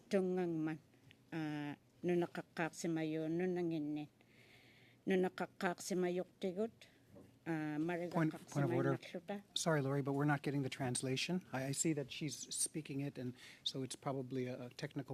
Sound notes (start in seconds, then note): 3.0 alternate language spoken